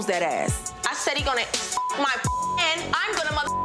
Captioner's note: beep